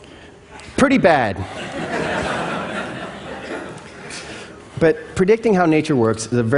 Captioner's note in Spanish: Risas